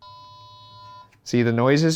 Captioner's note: toy beeping